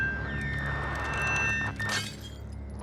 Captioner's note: glass shatters